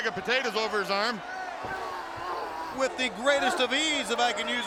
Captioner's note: Konnan moaning